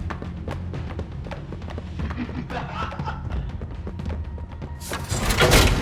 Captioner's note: laughter